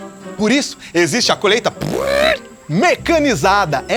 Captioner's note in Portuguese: Ruídos com a boca